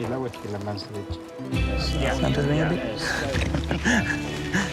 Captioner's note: Spanish language